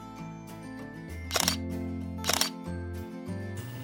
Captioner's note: shutter sound